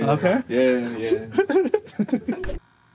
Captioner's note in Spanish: risas